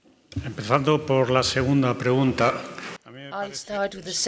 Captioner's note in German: spanisch